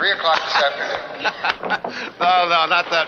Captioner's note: Jerry laughs